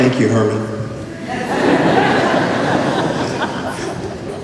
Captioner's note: laughter